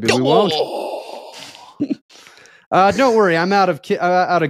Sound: group exclaims

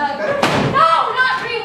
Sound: bangs books on the table

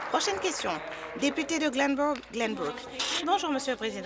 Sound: applause

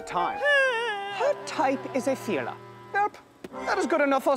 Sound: Mrs. Jung whining

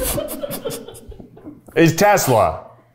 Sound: crew laughing

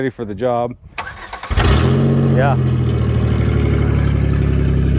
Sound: vehicle engine roars

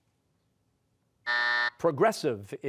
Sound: buzzer

